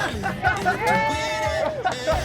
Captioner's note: cheering; laughter